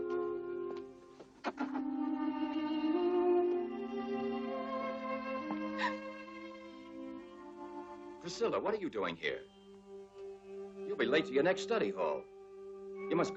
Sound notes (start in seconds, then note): 5.7 Priscilla gasps